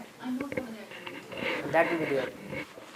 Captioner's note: talking distantly